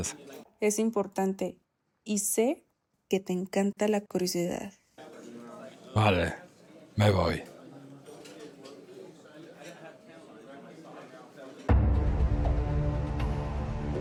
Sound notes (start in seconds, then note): 9.1 restaurant noises